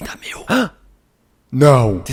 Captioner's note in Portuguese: suspiro